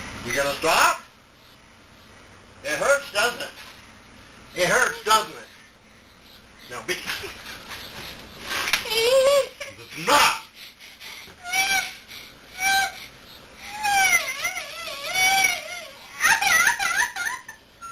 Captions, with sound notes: You're gonna stop? It hurts, doesn't it? it hurts doesn't it? ENOUGH! Huh? huh? [whimpering] [crying]